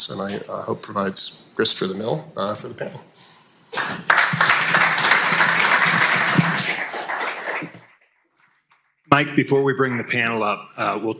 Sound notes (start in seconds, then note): 3.7 audience applauding